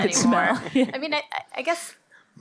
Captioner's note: laughs